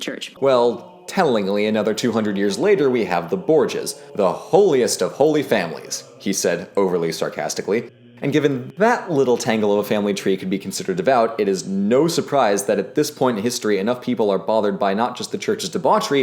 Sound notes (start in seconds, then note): 6.1 he said overly sarcastically